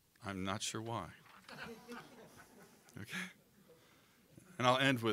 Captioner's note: audience laughing